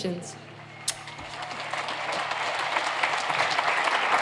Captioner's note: applauding